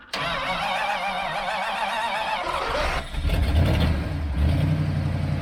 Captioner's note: engine Startup